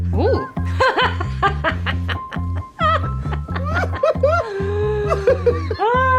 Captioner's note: laughs